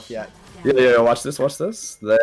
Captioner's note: background chatter